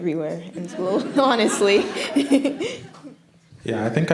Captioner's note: laughs